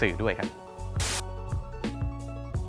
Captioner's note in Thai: เสียงโทรทัศน์